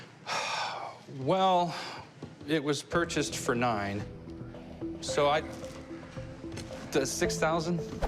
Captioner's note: sighs